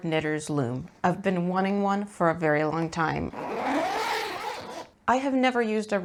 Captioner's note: long zipper goes vroom